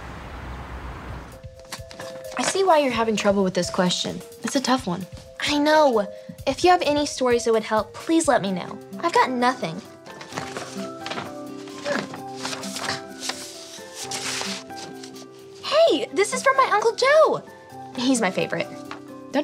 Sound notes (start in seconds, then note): 9.5 mail rustling